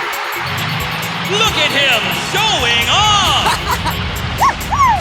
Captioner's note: cheering; laughing